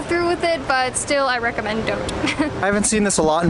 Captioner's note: laughing